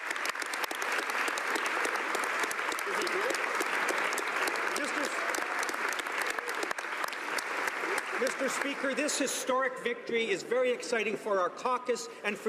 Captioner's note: applause